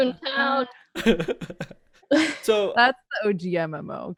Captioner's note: laughs